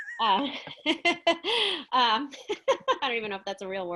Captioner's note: laughs